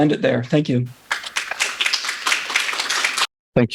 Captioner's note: audience applauding